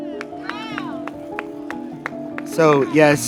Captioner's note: group cheering and clapping